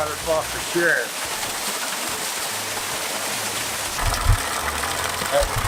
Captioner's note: water splashing